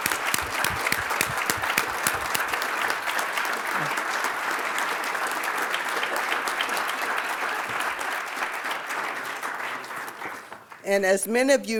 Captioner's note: applause